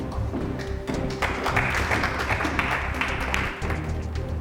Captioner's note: audience claps